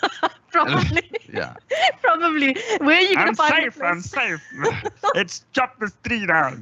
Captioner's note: laughs